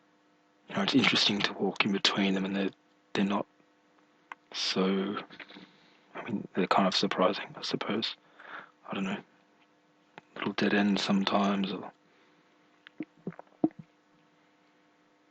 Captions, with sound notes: It's interesting to walk in between them and they're not So... I mean they're kind of surprising, I suppose I dunno Little dead-ends sometimes, or [swallowing]